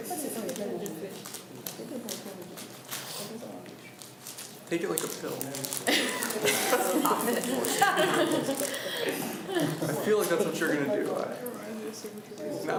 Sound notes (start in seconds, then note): 0.0 students talk amongst themselves; 5.9 laughs